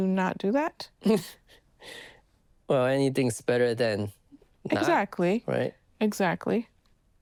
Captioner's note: chuckles